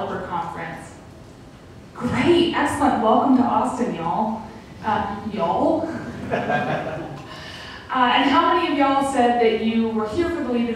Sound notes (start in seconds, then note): 5.9 laughter